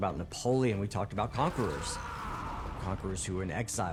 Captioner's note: shouts